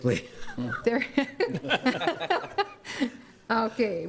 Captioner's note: laughter